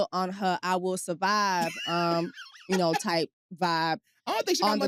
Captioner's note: laughs